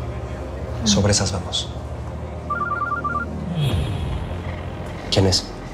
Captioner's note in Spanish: Suena el celular